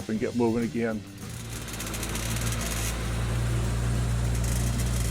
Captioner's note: engine rumbling